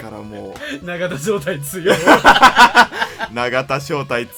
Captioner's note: laugh